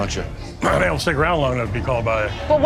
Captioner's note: clears throat